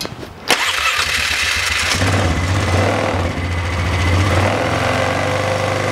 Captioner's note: engine starts